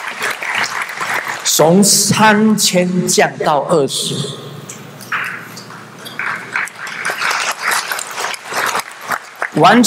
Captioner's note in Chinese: 眾鼓掌